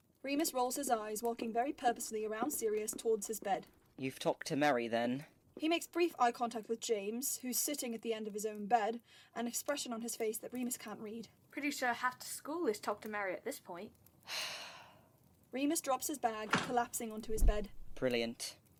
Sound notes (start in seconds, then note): 14.2 Remus sighs; 17.4 bed shuffles